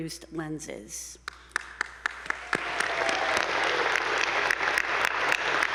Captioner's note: attendees applauding